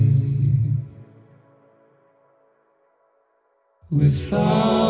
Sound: echo

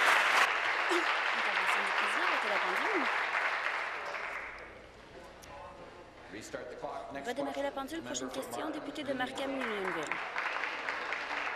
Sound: applause

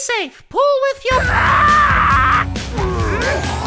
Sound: yelling

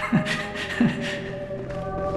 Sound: nervous laughter

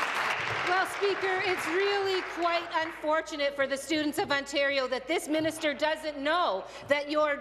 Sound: applause

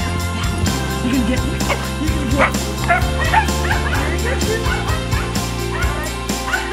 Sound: bark; barks

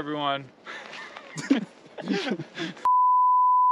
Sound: laughter

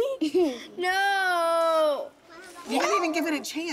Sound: giggles

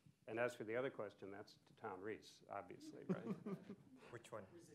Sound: laughter

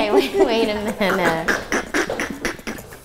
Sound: laughing

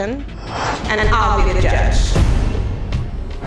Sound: dramatic sound; echo-y

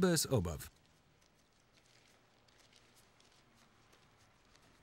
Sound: paper crinkling

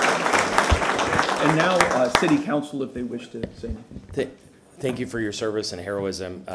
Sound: applause

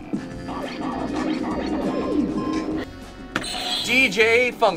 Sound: record scratching

